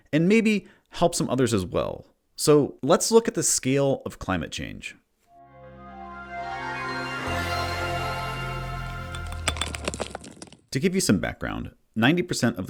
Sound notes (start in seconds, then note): 5.3 intro Music; 9.1 rocks Falling